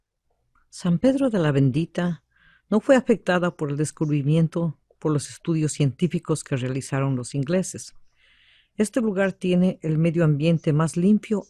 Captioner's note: VOICE-OVER in Spanish